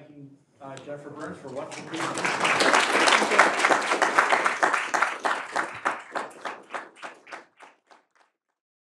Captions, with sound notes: in thanking Jennifer Burns for- (audience applauding)